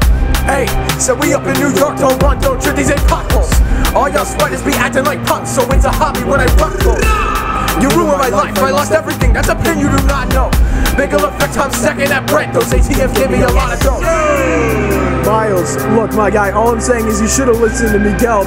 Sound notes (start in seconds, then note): 6.6 grrrrrrrrrrAH; 13.6 various "yessir"s and "ay"s